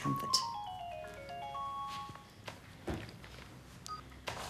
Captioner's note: phone jingling